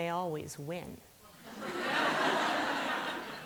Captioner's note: laughter